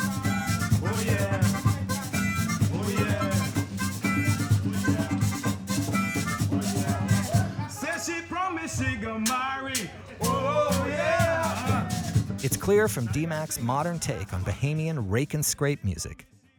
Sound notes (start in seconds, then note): 12.6 voiceover